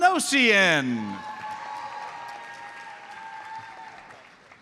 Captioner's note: audience cheers and applauds